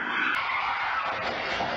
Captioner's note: none